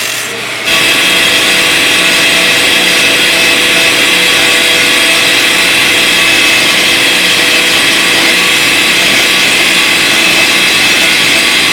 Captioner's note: grinding noise